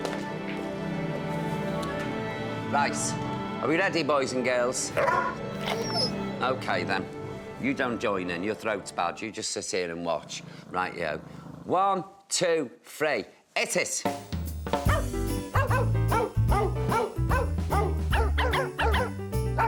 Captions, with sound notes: Right. Are we ready, boys and girls? [dog barks] OK, then. You don't join in. Your throat's bad. You just sit here and watch. Right. 1, 2, 3. It is. [christmas song] [dogs barking]